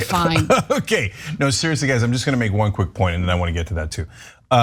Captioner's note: laugh